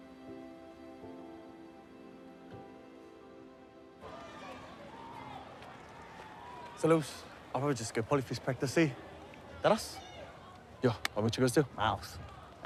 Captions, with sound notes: (STUDENTS CHATTER IN DISTANCE) - Sole uce, I'll probably just go Polyfest practice, eh. That us? - Yeah. I'll meet you guys there. - My uce.